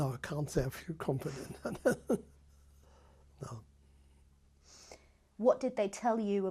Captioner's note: laughs